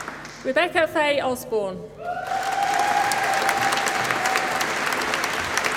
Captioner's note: applause